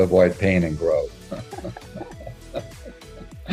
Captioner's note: laughs